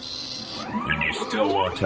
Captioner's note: dot-matrix printer noises